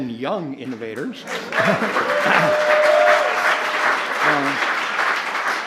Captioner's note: applause